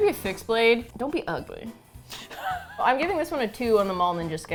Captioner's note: laughs